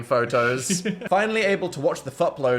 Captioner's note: laughs